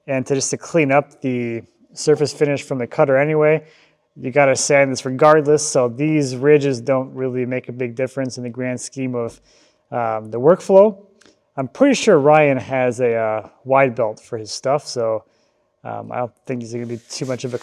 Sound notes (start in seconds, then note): none